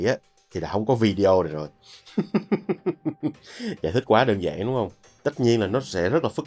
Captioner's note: laughter